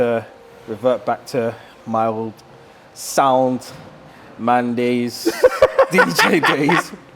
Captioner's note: laughing